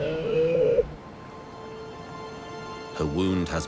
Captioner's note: sea lion moaning